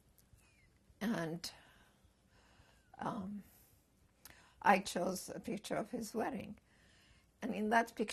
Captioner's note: pauses for 3 seconds